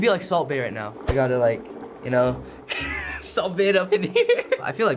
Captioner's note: laughs